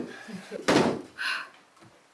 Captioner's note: door shutting closed